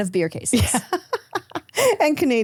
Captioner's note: laughing